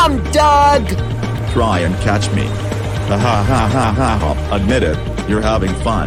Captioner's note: laughing